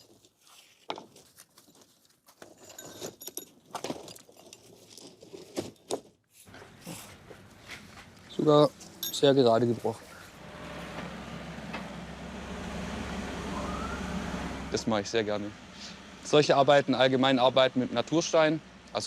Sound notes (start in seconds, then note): 10.5 excavator humming